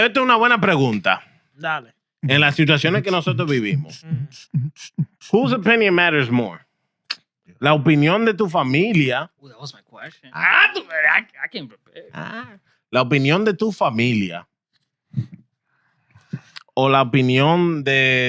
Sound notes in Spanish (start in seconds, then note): 0.2 Hablando en idioma extranjero; 7.7 Hablando en idioma extranjero; 10.4 Hablando en idioma extranjero